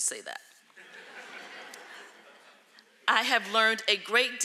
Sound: audience laughing

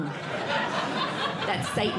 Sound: audience Laughing

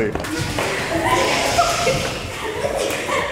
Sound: kids giggling

